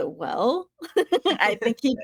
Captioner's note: laughing